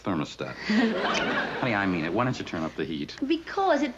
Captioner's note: chuckles